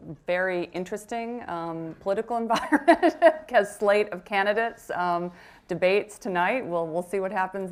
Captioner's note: laughs